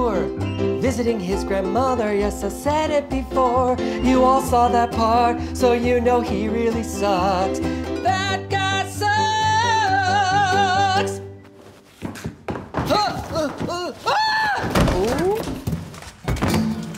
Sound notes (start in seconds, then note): 13.9 oldstyle screams; 15.3 commotion